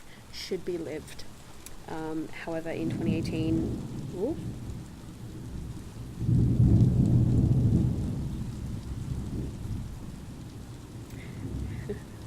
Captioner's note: pause to appreciate the thunder rumbling in the background; soft laugh